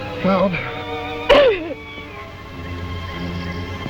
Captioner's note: sobs